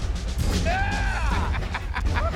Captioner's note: laughs